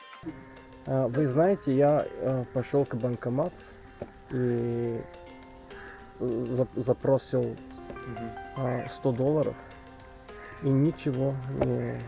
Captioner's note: speaking Russian